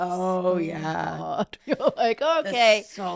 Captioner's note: laughing